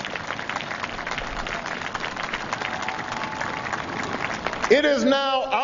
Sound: applause

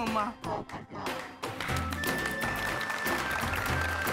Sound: applauding

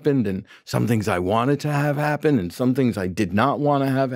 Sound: none

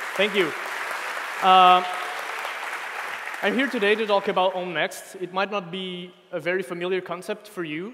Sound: applause

